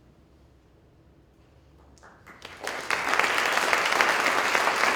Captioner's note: applause